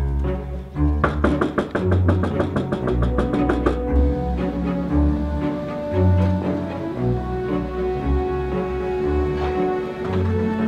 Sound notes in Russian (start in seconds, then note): 0.9 стук